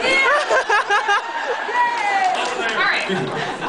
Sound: laughs

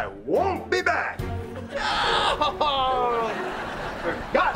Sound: yelling

